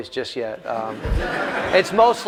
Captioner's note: laughter